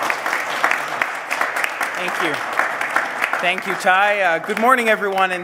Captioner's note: applause